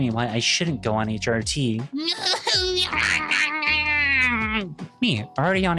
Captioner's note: angry incoherent noises